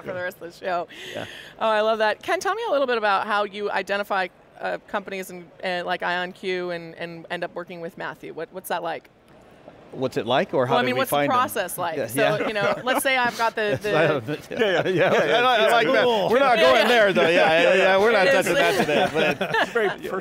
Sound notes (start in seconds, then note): 15.2 all laughing